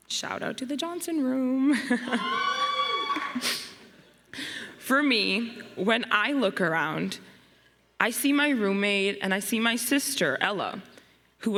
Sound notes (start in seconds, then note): 1.8 chuckles; 2.0 students cheering